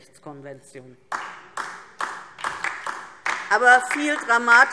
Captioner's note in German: Beifall DIE LINKE